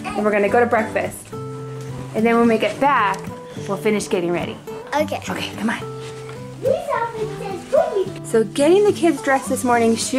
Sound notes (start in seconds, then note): 6.6 child shouting